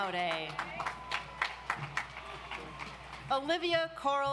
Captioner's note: audience applauds